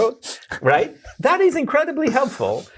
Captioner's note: laughing